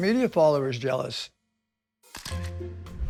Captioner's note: camera shutter clicks